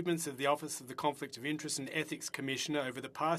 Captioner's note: speaking French